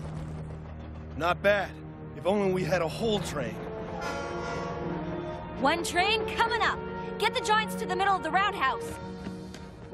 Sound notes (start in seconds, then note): 4.0 train whistle